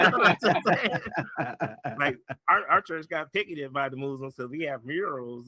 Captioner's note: laughing